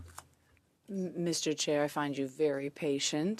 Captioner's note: speaking French